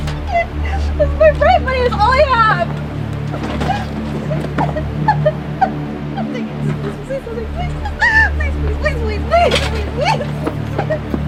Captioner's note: crying